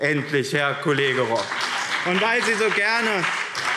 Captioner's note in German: Beifall BÜNDNIS 90/DIE GRÜNEN und CDU